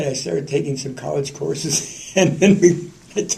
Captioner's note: laughter